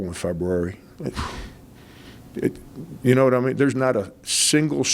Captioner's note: huffs lightly